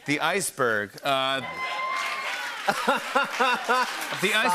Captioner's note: cheers and applause